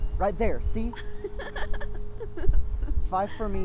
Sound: laughs

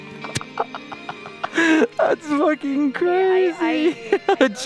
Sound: laughs

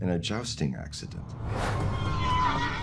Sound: horse neighing

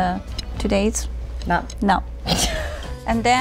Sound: laughs

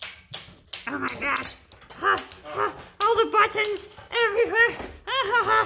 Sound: murmurs

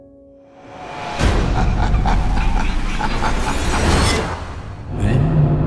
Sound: maniacal laughing

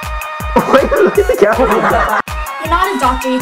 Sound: laughs

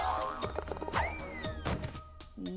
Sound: thudding

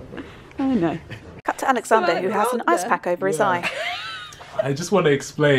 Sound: laughter

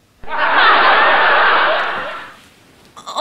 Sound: laughing

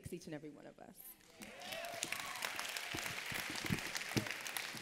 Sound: applause

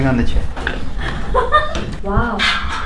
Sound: laughing

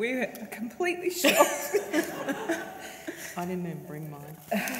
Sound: both laugh

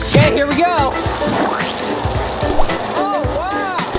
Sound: water splashing

